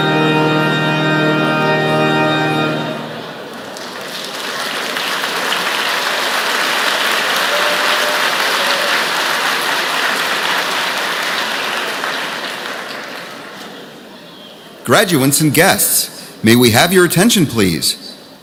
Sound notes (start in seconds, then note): 3.4 applause